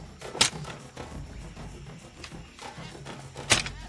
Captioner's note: sticks thud